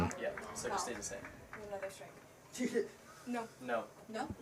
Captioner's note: indistinct chatter